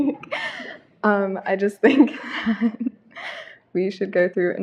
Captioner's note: laughter